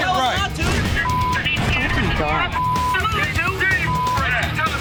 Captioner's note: arguing